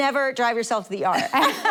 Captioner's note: laughing